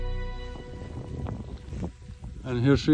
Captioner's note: wind blowing